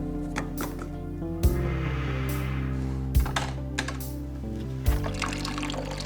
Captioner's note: Quinn inhaling; gas trickling